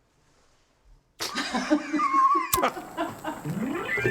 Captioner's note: laughing